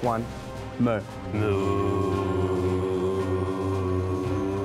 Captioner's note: all mooing